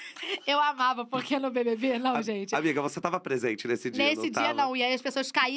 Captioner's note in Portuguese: risos